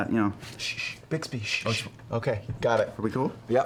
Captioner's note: shushes